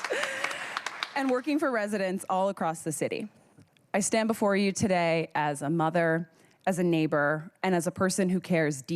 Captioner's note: cheers and applause